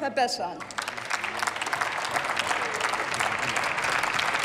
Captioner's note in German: Applaus